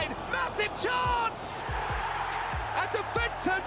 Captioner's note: fans cheering